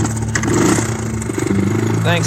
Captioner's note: sad guitar; vroom vroom